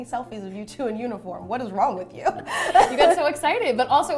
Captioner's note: laughing